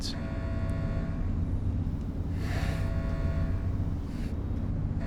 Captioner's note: alarm blaring